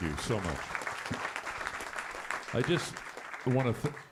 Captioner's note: applause